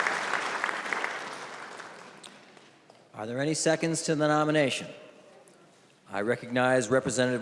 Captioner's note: applause